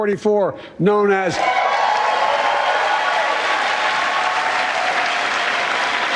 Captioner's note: cheers and applause